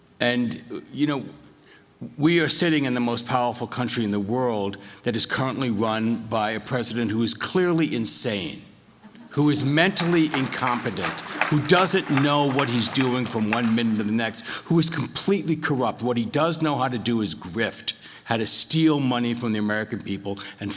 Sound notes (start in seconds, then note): 9.6 applause